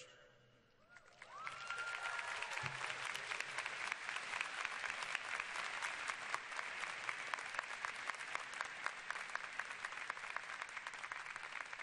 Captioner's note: cheers and applause